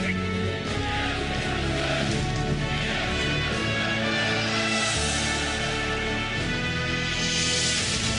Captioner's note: people Sherring